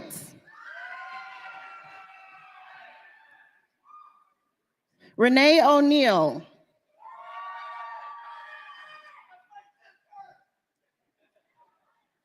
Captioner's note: cheers and applause